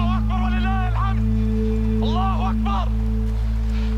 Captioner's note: Hamas fighters speaking Arabic